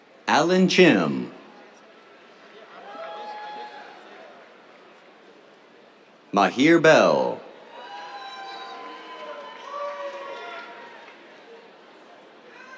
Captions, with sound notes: Alan Chiem. [CHEERS] Mahir Behl. [CHEERS, APPLAUSE]